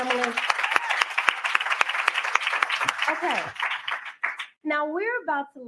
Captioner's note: applause